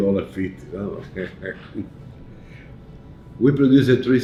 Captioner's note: chuckles